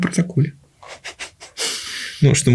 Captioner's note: chuckles